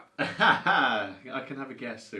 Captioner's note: laughs